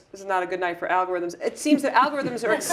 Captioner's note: laugh